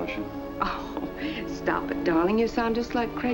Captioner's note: chuckles